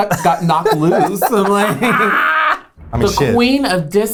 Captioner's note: laughs